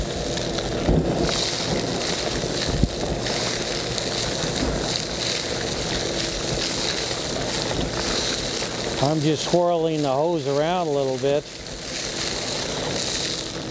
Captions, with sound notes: [Vacuum and gravel sound] I'm just swirling the hoes around a little bit.